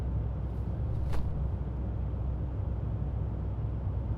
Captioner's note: clothes rustling